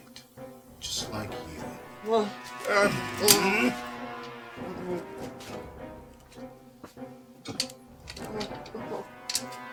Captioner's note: Alex groans